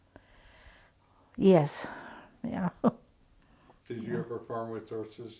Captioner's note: chuckles